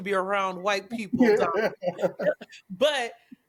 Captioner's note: laughter